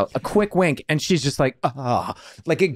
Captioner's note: groans